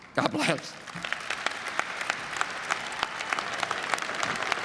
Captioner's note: applause; cheering and applause